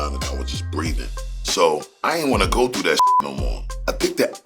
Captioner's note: beep